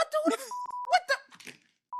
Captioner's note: beeping